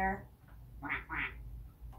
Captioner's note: quack, Quack